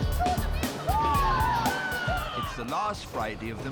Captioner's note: hens cheering